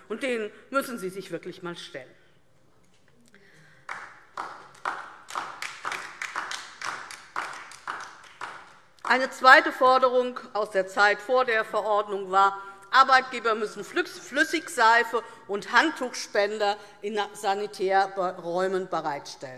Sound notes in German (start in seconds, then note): 3.7 Beifall DIE LINKE